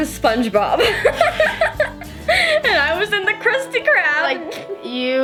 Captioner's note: both laugh